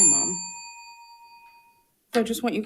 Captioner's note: bell rings